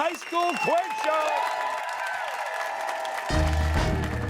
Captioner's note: cheers and applause